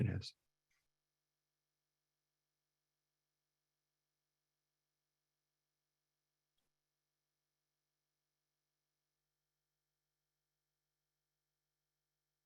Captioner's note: silence